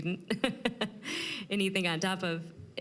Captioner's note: laughing